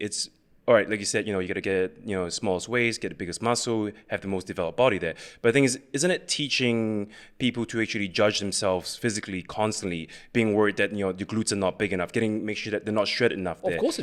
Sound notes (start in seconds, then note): none